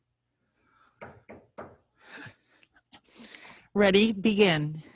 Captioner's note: gavel banging